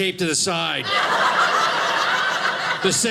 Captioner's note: audience laughing